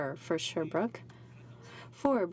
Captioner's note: speaking french